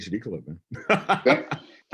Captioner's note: laughs